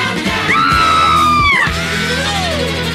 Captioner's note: Sweet Polly Purebred Screams